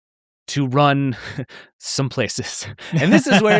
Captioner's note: laughing